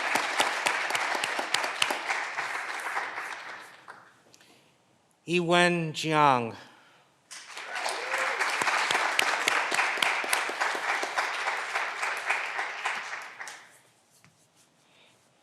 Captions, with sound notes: Yiwen Jiang. (clapping continues) (Candidates cheering)